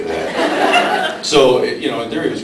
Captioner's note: laughs